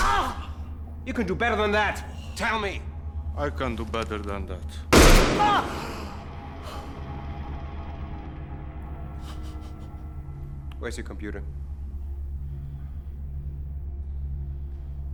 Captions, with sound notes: Ah. - You can do better than that! Tell me! - I can do better than that. (gun firing) - Ah! (cries) - Where's your computer?